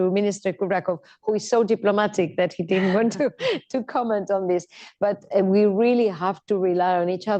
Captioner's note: laughter